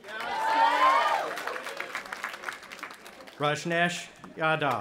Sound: audience applauding and cheering

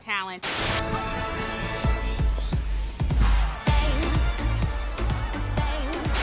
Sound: TV static hisses; lively dance music

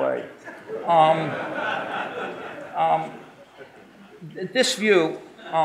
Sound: audience laughing

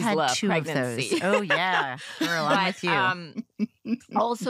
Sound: chuckles

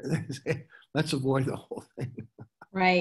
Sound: laughs

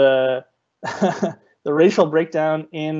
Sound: chuckling

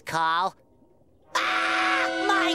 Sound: screaming

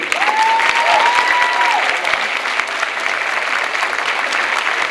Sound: clapping and cheering

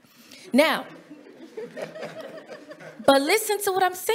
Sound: audience giggling

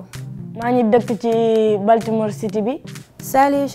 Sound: speaking foreign language

